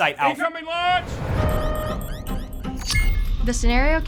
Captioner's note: siren blares